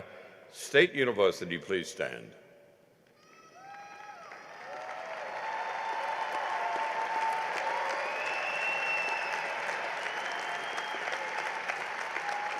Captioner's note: cheering and applause